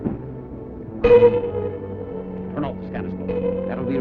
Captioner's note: beeping